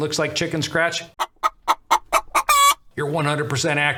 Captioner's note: chickens squawking